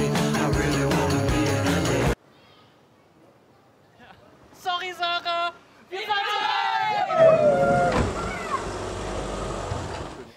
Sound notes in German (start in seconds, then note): 2.1 Musik stoppt; 6.0 Jubel